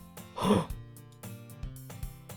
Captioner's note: gasp